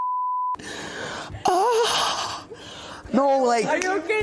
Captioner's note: Ishowspeed whimpers